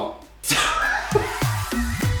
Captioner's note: laughter